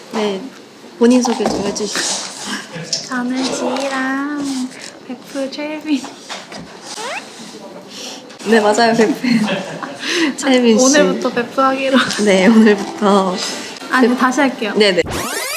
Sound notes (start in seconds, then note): 6.9 laughing?